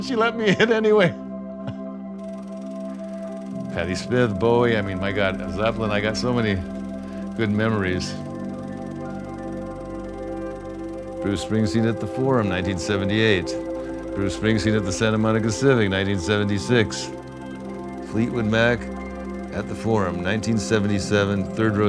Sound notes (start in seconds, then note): 2.1 laughs; 8.9 projector whirring